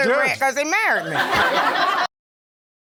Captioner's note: audience laughing